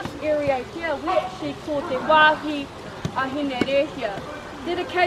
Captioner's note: speaking Maori